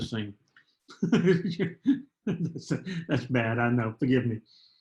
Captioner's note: laughter